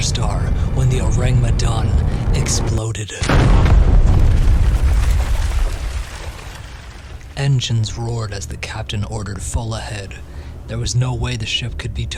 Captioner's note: massive shockwave SFX